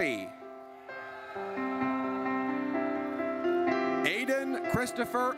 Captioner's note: audience cheers